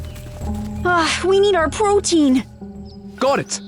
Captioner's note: sighs